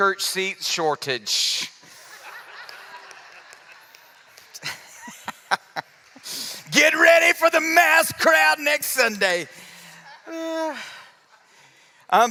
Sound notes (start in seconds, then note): 3.7 laughter